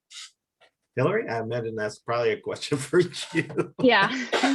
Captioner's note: laughs